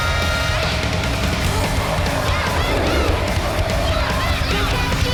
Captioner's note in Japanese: 稲子:デスボイス